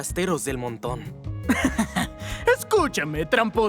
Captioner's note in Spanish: Risa malvada